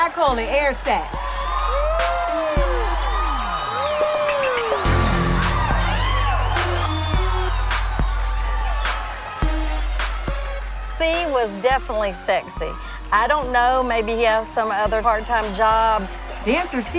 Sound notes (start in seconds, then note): 1.8 crowd cheering